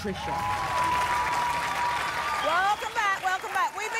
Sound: cheers

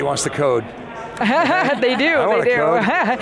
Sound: laughing

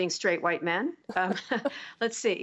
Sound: laughter

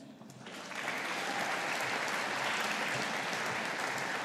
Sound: audience applauding

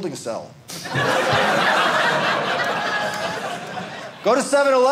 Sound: audience laughing

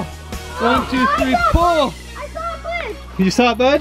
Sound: grunting

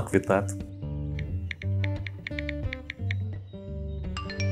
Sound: typing on phone

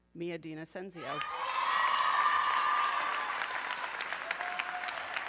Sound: audience cheering

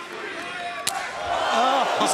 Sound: crowd

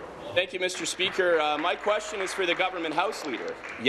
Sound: applause

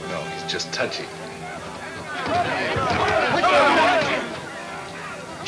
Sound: men yelling simultaneously

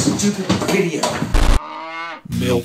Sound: cow mooing

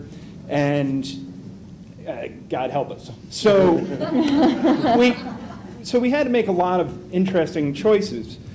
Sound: laughter

